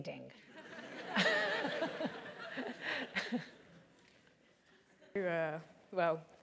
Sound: laugh

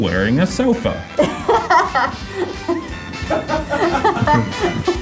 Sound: laughing; upbeat music

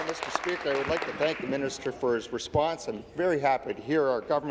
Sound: applause

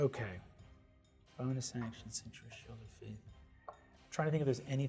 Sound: mumbling quietly

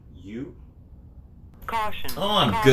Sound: app Voice

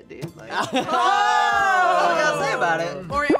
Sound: laugh

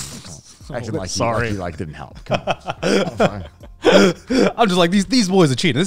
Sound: laughing

